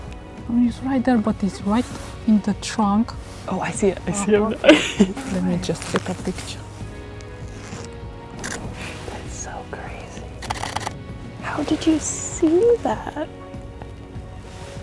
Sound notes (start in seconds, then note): 4.0 chuckles; 8.4 camera shutter clicks; 10.4 camera shutter clicking